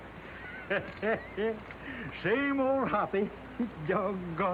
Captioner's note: laughs